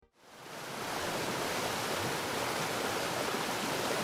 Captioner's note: water rushing